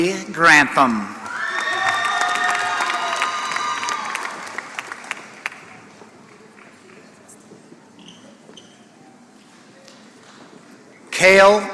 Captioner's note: applause